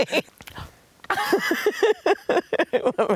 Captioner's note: laughs; laughing; laughs